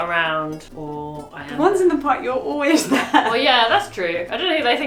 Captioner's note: laughs